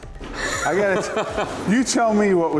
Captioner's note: laughs